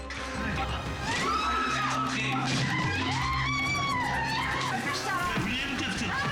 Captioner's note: dramatic music continues; staff member screaming